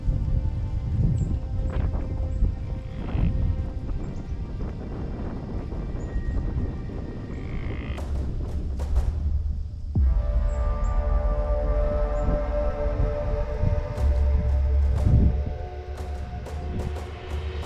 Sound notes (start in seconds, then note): 3.3 mimics deer call; 9.5 soft music intensifies